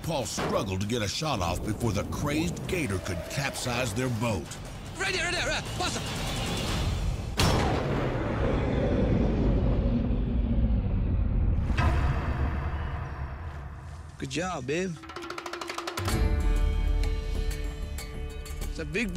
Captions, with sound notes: Jay Paul struggled to get a shot before the crazed gator could capsize their boat. (gun fires)